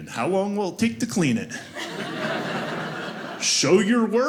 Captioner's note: audience laughing